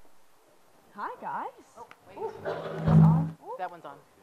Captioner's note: mic buzzes